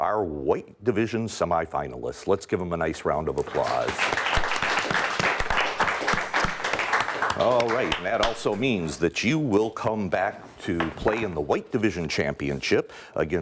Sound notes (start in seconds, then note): 3.4 applause